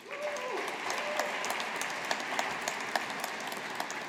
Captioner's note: audience applauding